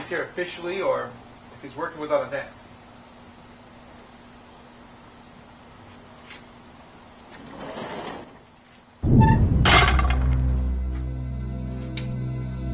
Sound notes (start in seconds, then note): 4.3 sliding door; 9.0 gate creaks, slams